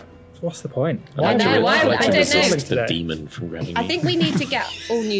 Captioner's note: mutters